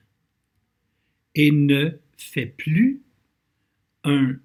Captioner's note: translating in French